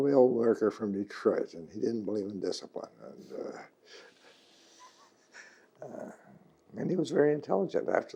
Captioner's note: laughs